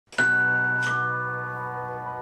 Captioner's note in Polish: dźwięk dzwonka do drzwi